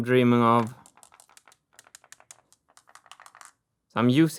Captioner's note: marble rolling